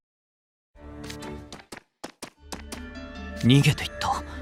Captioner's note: footsteps